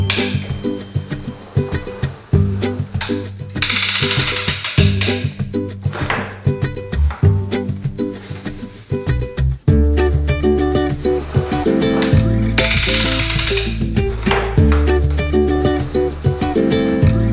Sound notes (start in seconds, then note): 0.2 upbeat instrumental music; 4.1 gear cranking; 13.2 gear cranking